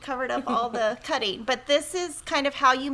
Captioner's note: chuckles